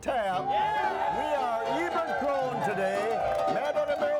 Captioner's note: crowd cheers